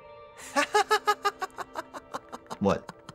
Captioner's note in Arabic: يضحك